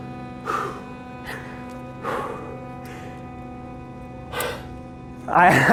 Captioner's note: labored breathing